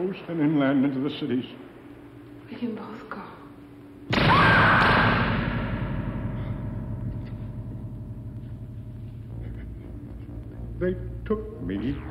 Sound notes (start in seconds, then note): 4.2 screaming